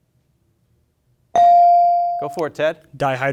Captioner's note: buzzer chimes